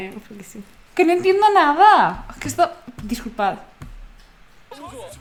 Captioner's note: frustrated in multilingual